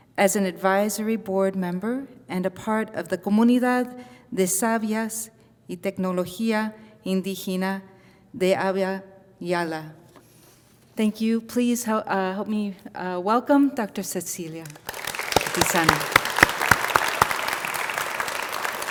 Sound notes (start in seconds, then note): 14.6 audience applauding